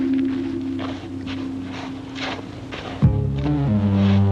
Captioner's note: digging